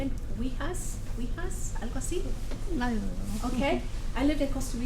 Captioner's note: speaks Foreign Language